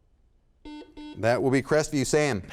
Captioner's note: buzzer sounds